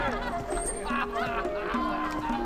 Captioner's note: people laughing